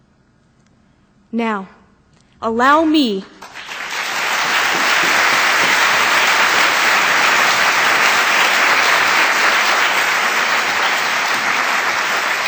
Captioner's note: applause